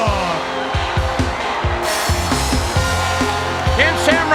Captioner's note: crowd cheering